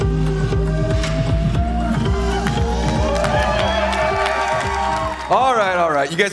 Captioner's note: upbeat music; cheering